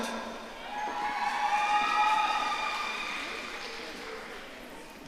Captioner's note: audience cheering